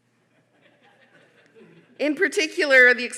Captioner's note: audience laughing